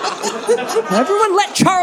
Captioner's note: audience laughing